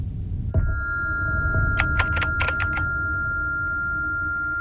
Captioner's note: keyboard clicking